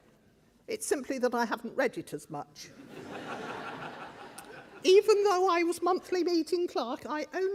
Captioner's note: crowd laughs